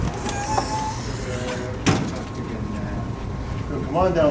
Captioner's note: door creaking